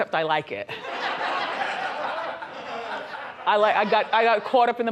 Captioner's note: audience laughs